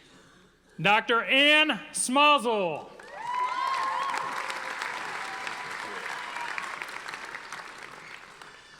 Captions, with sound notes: Dr. Anne Smazal. (audience applauding)